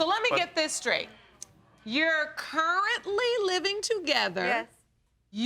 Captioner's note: none